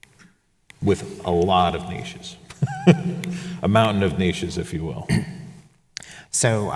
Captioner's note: chuckles